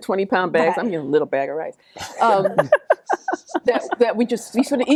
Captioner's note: laughing